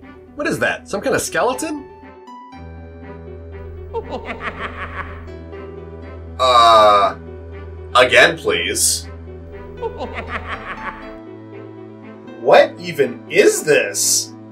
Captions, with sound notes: What is that? Some kind of skeleton? *Skeleton laughter* Uh. Again please. *Skeleton giggles* What even is this?